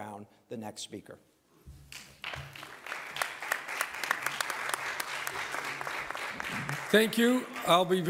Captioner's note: applause